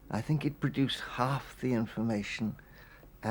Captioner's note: none